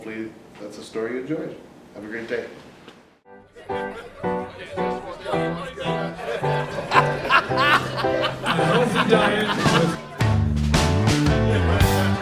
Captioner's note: laughter